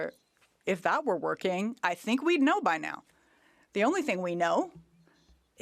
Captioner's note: speaking French